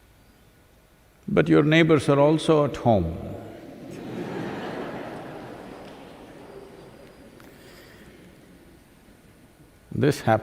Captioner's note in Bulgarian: смях